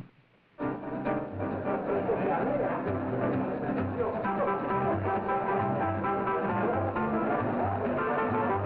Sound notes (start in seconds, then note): 0.6 light hearted music; 0.6 people chattering